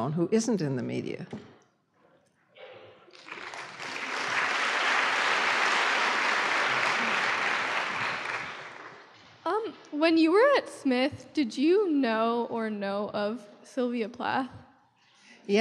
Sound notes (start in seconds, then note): 3.1 applause; 10.2 voiceover